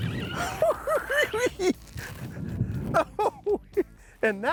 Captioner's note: cackling